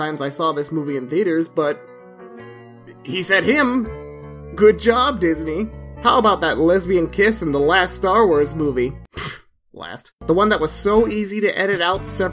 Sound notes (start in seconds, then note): 8.8 scoffs